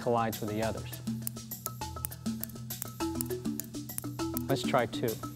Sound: balls clinking

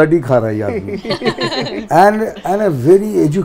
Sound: laughs

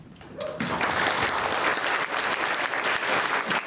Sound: clapping

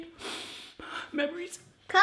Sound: sniffs

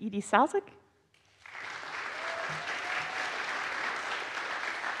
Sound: audience applauds

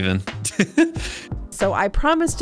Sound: laughs

